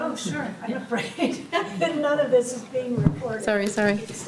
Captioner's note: laughter